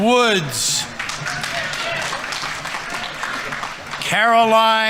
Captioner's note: audience members cheering; audience applauding